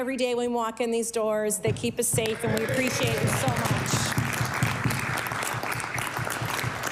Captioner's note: applause